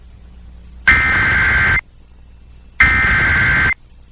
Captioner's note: SAME header tones